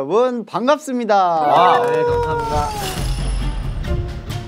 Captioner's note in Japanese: セルフ拍手